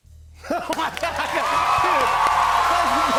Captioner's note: cheers and applause